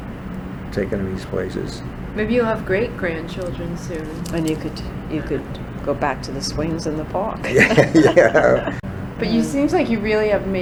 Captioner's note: all laugh